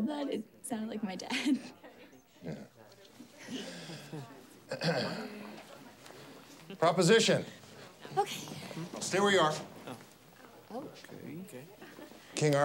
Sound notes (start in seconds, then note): 0.0 chuckles; 4.7 Stephen clears throat